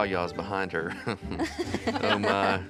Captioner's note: giggling